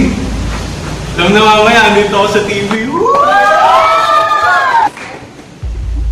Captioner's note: screams of excitement